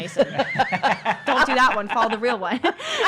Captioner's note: laughter